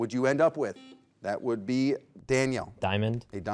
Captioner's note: buzzer beeps